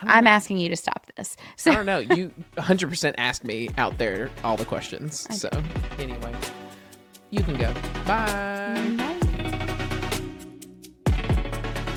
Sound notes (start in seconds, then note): 1.6 laughs; 9.5 instrumental music plays